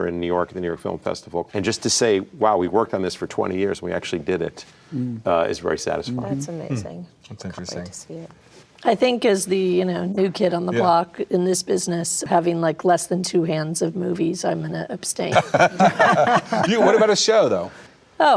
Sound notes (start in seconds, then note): 15.3 group laughing